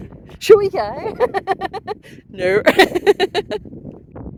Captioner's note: laughing